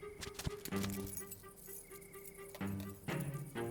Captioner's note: gentle suspenseful music; keys jingling; gentle suspenseful music